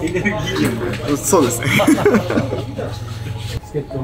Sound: laughs

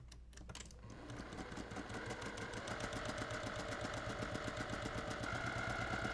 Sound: sewing machine whirring

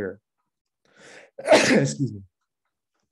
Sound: sneezes

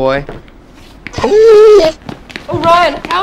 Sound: dog whimpering

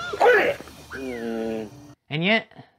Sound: inquistive bee sounds

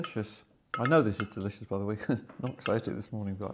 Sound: chuckles

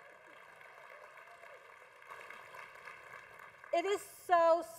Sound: congregation applause

